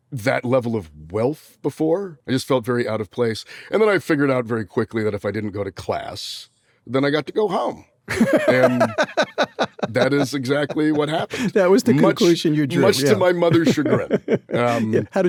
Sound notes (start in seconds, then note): 8.1 laughing